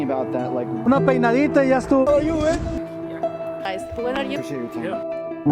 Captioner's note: speaking in Spanish